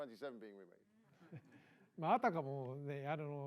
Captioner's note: knowing laughter